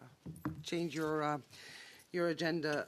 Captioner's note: speaking French